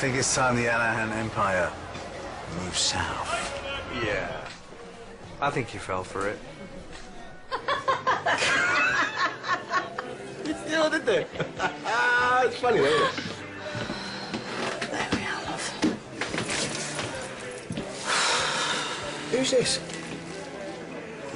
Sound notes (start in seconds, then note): 7.4 laughs